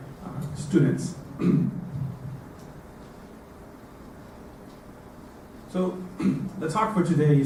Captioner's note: cough